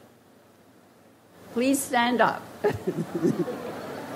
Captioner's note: laughs gently; audience laughs